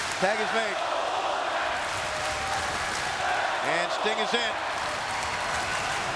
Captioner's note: applause